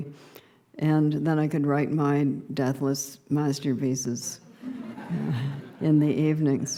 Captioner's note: laughter